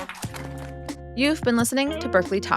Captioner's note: applause